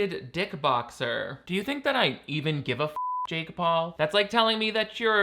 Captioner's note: beep